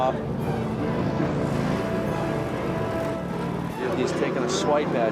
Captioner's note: engine roaring